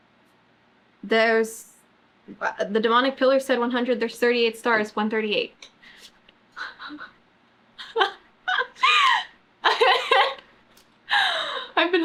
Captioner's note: laughs